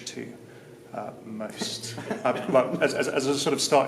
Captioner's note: laughs